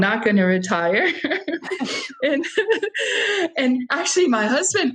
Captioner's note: laughing